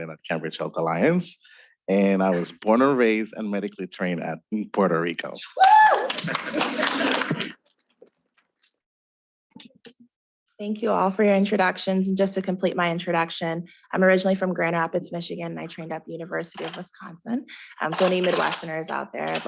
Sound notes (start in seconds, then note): 5.9 students clapping; 6.1 students laughing